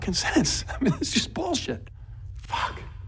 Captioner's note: chuckles